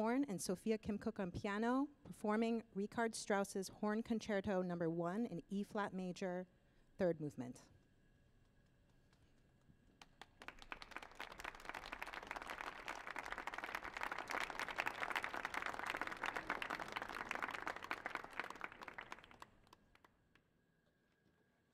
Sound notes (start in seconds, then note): 10.5 audience applauding